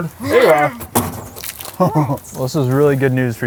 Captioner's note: chuckles